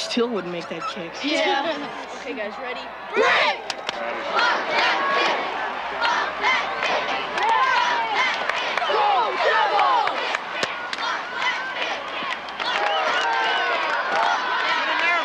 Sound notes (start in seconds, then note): 0.4 crowd; 3.0 women cheering; 7.0 crowd; 12.2 crowd